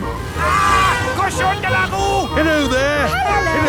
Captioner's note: yells